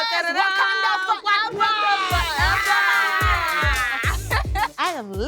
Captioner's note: chatter